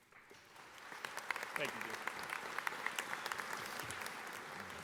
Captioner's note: audience applauding